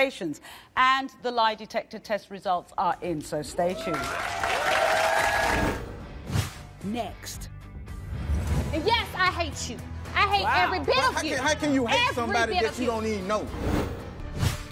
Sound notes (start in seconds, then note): 3.8 applause